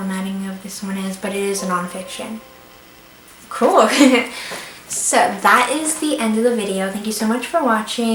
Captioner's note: computer noise